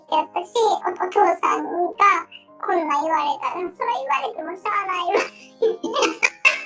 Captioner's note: laughs